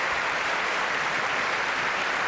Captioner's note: applause